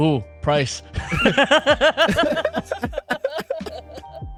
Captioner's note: laughing